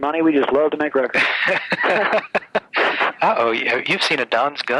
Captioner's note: laughs